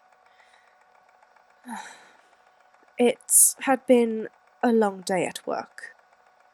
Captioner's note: takes a deep breath